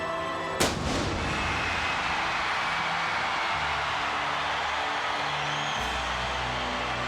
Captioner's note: fireworks popping; crowd screaming